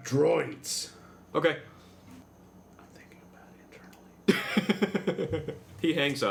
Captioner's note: whispers